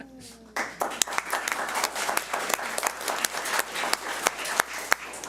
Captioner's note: audience applauds